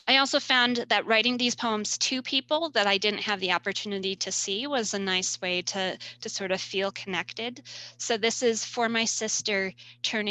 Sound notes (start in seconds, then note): none